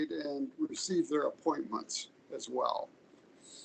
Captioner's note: none